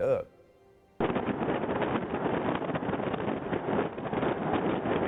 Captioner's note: wind rustling